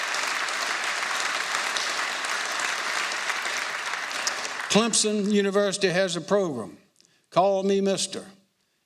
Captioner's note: applause